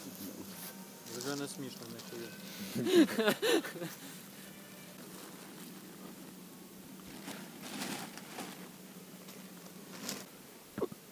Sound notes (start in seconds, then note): 2.7 laughter